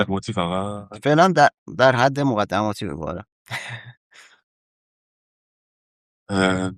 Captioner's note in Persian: خنده